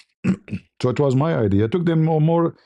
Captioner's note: berdehem